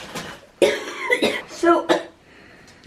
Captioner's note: coughing